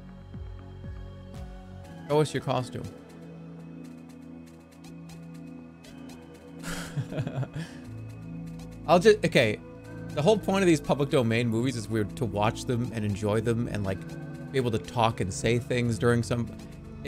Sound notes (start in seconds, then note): 6.6 chuckles